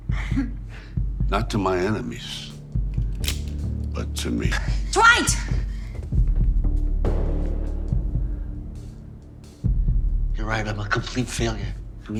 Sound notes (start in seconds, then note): 0.3 Armand crying; 2.9 cocking gun; 6.0 deep ominous music